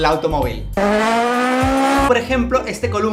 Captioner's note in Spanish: motor intenso